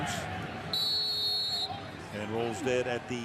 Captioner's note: whistle